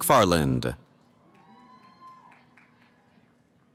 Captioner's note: cheering